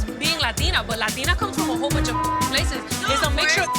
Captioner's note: beep